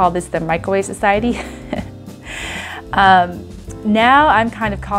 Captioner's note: laughs